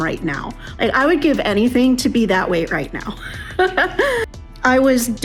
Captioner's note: giggle